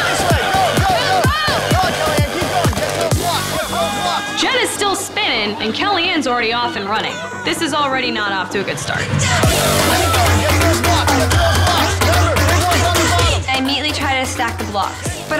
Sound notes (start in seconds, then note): 9.2 contestants yelling; 9.2 upbeat music